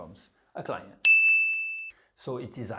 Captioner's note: pinging sound